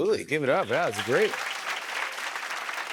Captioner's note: cheers and applause